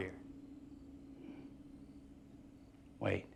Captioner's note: crickets chirping